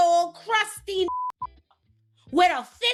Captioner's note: beeping